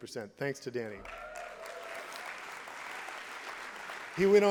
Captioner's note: applause and cheering